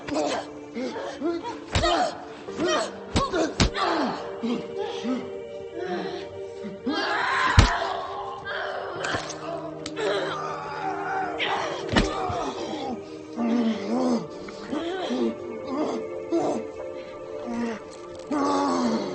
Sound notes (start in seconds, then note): 4.8 soft music; 6.4 both grunting; 6.7 punches thudding; 14.1 both grunting; 14.1 soft music continues